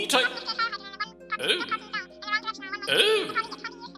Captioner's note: chatter